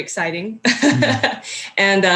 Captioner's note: laughing